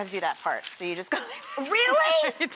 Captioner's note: laughing